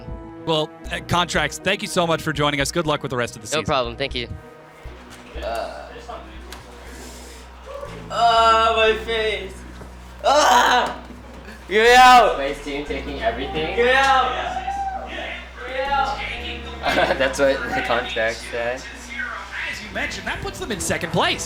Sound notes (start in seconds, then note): 10.1 yells